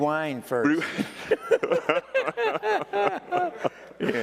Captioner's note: both laughing